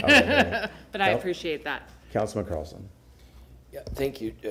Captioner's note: laughter